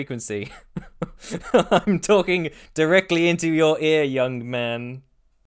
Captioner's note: laughing